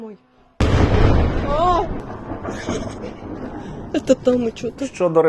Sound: screams

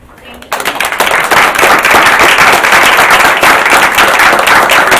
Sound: audience claps

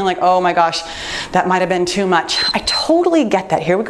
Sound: timer beeps

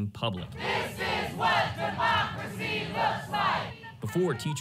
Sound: chanting

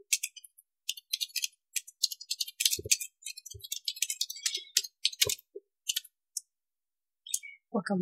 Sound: keyboard typings

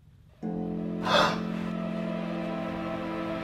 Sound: gasp

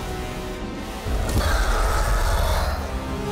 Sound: screech

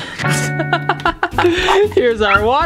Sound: laughing

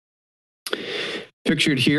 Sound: inhales

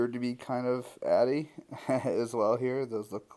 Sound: laugh

